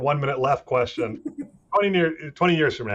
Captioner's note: laughing